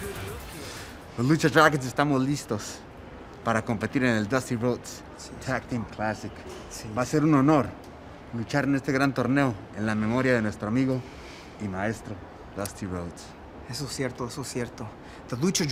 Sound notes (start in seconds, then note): 6.0 speaking spanish